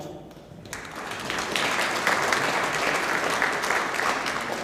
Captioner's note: audience applauding